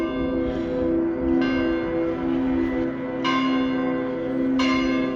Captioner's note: bells